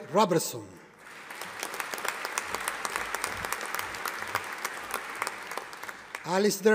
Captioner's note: audience applauding